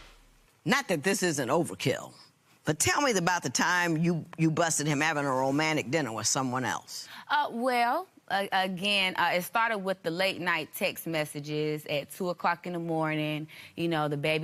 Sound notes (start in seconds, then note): none